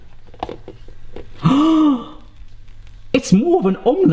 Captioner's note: gasps